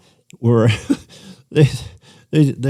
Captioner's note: laughter